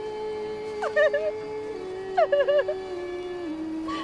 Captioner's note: sobbing